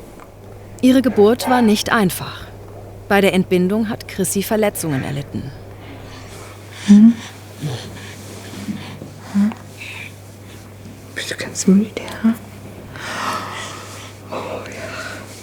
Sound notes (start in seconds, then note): 10.7 quietly